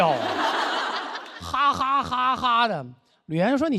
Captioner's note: laughing